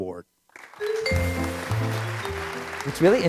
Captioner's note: applause